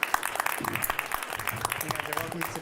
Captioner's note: applause